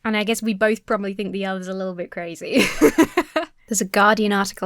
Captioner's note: laughs